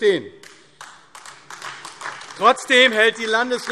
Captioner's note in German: Beifall AfD